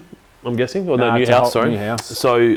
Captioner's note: murmurs